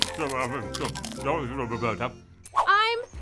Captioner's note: mumbling